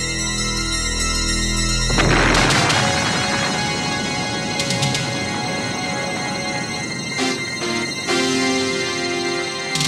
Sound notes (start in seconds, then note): 1.8 explosion booming; 2.0 dramatic music